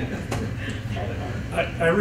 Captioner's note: chuckles